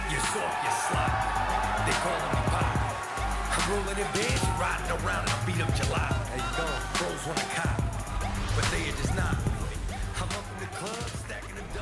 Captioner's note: cheers & applause